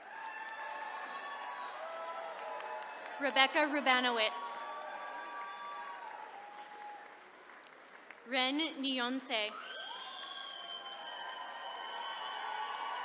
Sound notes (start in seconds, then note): 0.0 attendees cheering; 9.4 attendees cheering